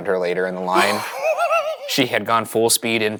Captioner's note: laughs